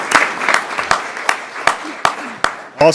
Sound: applause

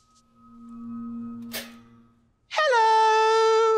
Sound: pulsating, toaster pops

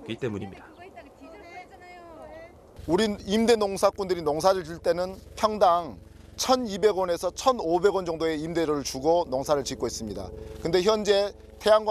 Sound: voiceover

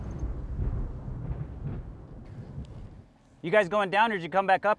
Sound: thunder rumbling

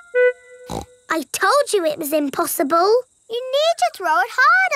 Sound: snorts

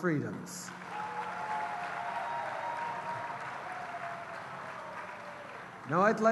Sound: cheers & applause

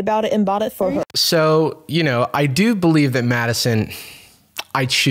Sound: sighs

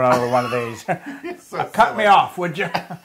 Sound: laugh

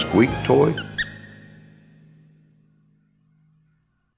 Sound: squeak toy squeaking

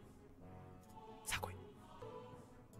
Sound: whisper

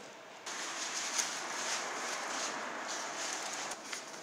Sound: closing umbrella

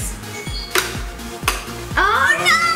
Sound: clicking

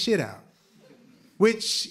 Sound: laughter

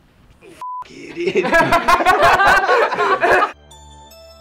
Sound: laughs; upbeat music

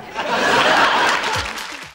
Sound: audience laughing

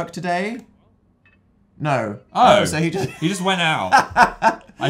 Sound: laughs

